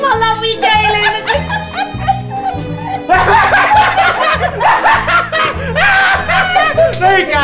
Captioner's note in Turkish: gülme sesleri